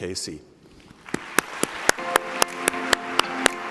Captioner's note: applause